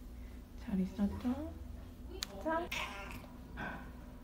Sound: meow

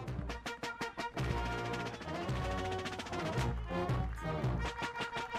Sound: audience applauding

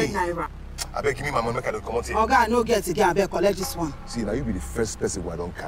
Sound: arguing in foreign language

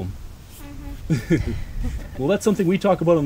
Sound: laughter

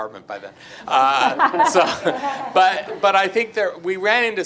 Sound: group laughs

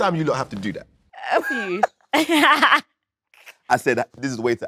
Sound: laughs

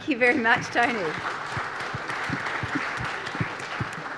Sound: applause

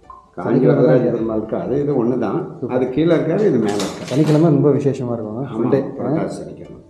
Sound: speaker noise

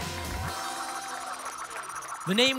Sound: spinning sounds

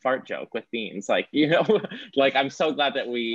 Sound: laughing

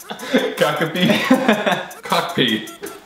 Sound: laughs

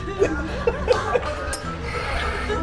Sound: laughs

